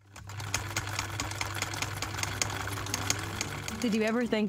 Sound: film reel rolling

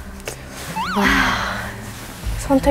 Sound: sigh

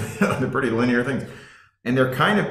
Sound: laughing

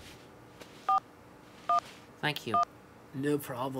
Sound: dialing phone

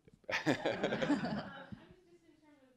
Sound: laughter

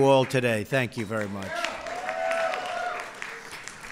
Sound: applause

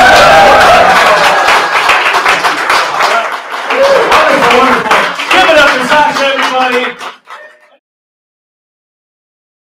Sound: loud cheering

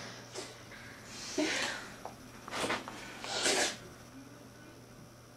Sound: sniffs

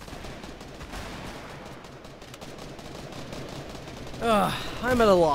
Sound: guns firing

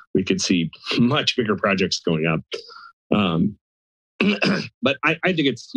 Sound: clears throat

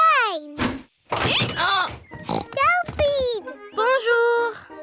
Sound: brays; oinks

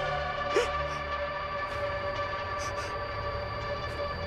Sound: crying

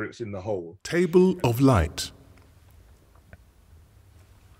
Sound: voiceover

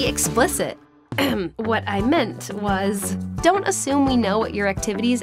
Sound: clears throat

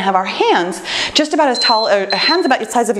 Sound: timer beeps

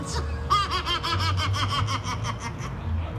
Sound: evil Laughter

